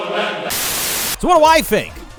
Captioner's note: TV Static